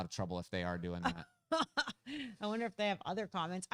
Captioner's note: laughs